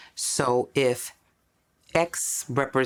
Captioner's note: none